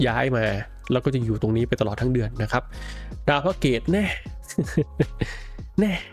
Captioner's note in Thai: เสียงหัวเราะ